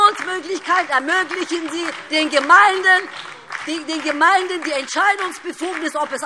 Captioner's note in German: Beifall DIE LINKE und SPD - Zurufe CDU